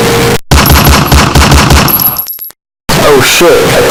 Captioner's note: gunshots